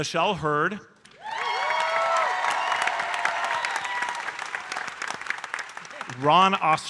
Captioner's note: audience cheering and applauding